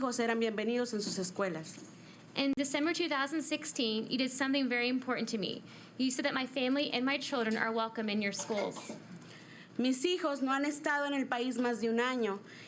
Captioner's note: speaking in spanish